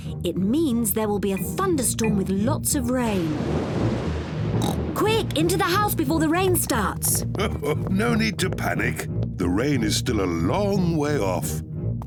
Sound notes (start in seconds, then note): 3.0 thunder rumbles; 4.6 oinks; 7.2 chuckles